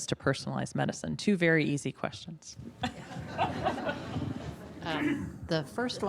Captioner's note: audience laughing